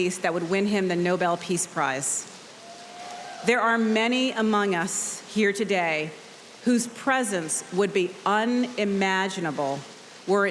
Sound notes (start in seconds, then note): 2.6 audience cheering